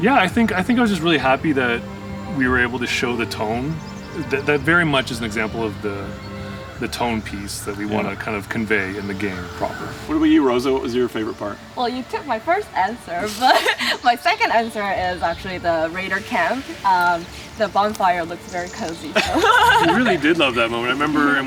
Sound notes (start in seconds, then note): 19.1 laughs